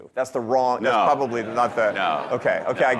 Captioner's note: audience laughing